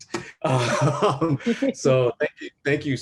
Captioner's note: laughing